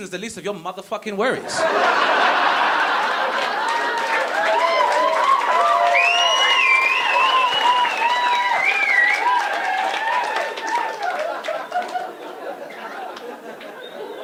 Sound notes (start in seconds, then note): 1.7 audience laughing and clapping